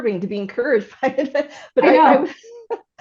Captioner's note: laughs